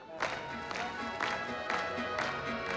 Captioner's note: audience clapping